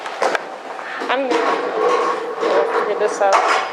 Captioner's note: chairs moving